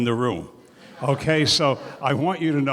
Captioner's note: laughter